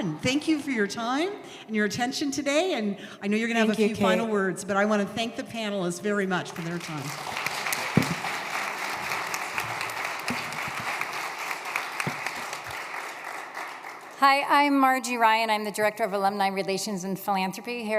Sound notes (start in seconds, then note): 6.5 applause